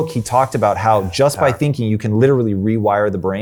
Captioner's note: murmuring quietly